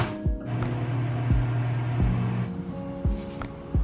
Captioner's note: microwave hums